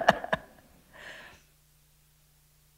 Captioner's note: laughter